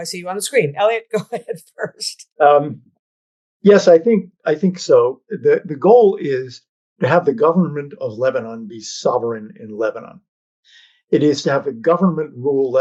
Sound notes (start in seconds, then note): 3.7 laughs